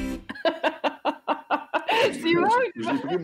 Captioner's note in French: rire